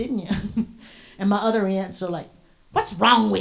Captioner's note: chuckles briefly